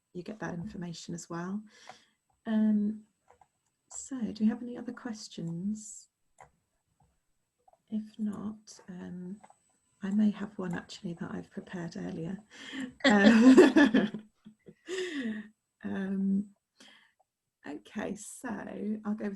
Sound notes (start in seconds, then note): 16.4 laughs